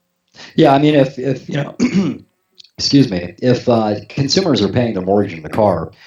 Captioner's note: cough